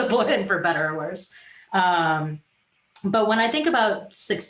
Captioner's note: giggles